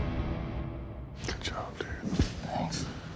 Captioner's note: whispering